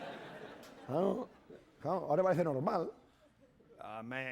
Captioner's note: speaking spanish